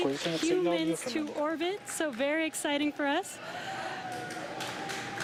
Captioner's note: cheering and Applause